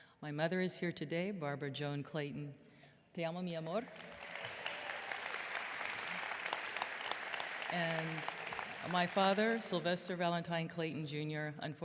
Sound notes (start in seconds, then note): 3.2 speaks foreign language; 3.8 audience clapping